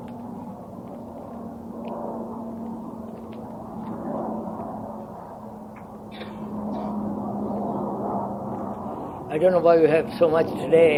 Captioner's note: roar of plane